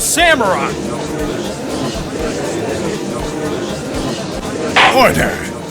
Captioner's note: gallery chattering